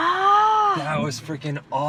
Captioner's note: groans